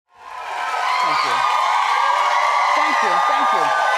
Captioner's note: audience cheering